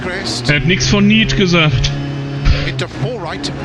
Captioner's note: laughs